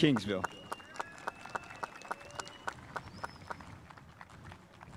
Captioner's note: spectators applauding